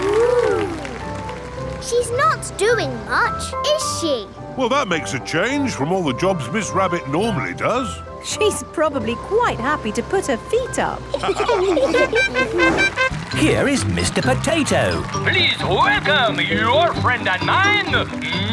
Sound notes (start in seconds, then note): 11.1 all laughing; 11.9 horn tooting